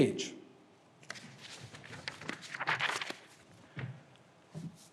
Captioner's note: paper rustling